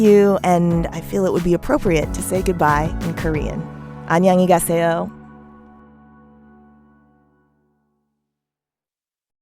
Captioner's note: speaking Korean